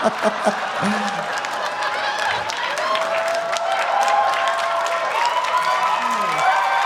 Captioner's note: Trixie laughing; audience laughing; audience applauding; audience cheering